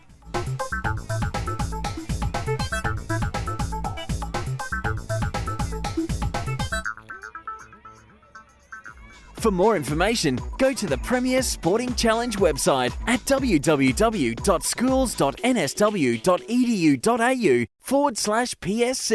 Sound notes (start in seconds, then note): 0.2 fast-paced music; 9.6 voiceover